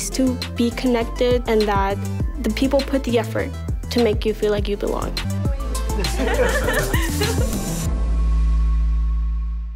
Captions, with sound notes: to be connected, and that the people put in the effort to make you feel like you belong. (laughter)